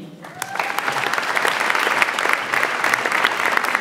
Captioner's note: audience applauds